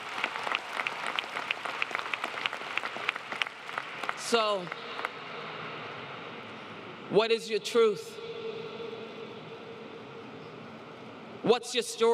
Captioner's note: applause